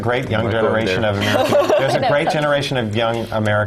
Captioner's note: laugh